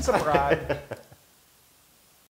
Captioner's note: laugh